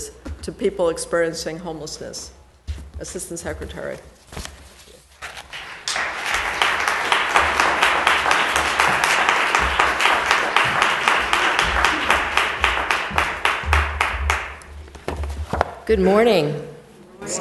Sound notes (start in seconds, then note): 5.4 applause